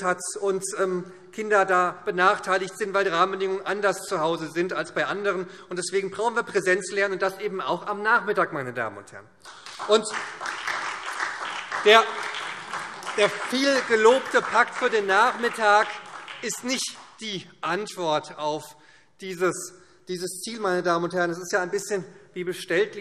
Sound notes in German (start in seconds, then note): 9.4 Beifall SPD